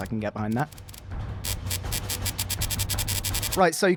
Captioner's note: zipper-like sound